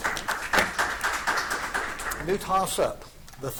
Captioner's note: audience applauding